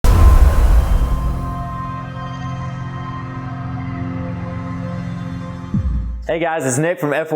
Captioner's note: sound effect